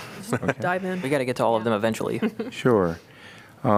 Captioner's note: laughter